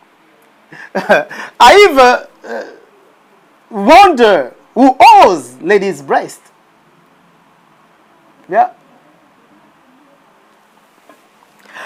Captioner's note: laughs